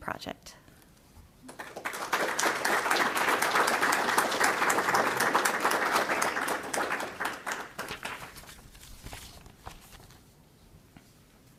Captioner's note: applause